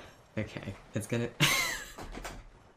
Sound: laughs

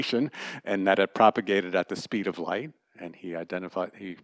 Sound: laughter

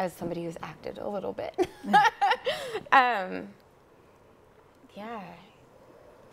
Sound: laughs

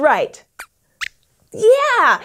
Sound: Squeaks squeaks approval

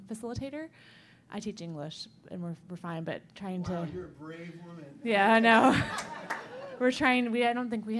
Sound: laughter

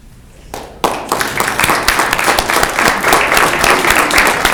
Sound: clapping

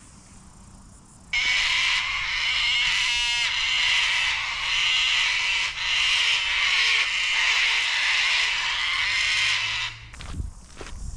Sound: cockatoos screaming

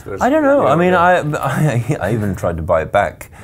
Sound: chatter

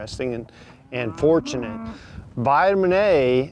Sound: cows moos

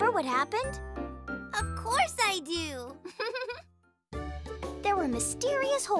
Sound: chuckles

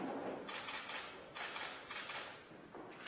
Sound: camera clicks

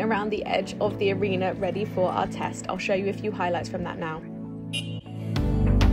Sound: car horn beeps

